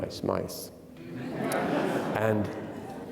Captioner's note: attendees laughing